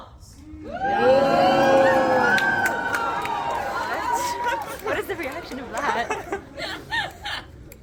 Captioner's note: crowd cheers